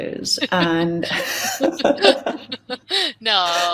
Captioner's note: laughing